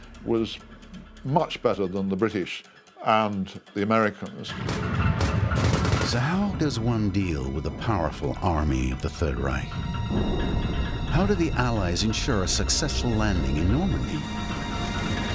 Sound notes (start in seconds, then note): 4.5 sub-machine gun fire